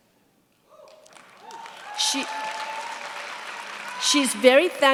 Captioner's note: cheers, applause